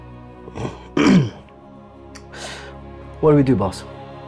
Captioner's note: clears throat